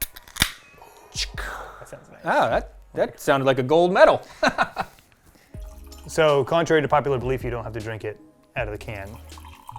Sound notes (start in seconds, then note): 0.0 beer cracking open; 4.3 laughs